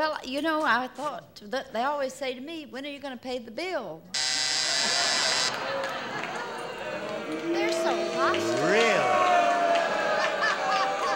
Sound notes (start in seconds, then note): 4.1 buzzer